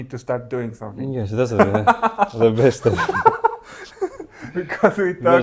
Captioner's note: laughs